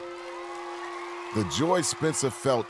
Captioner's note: cheering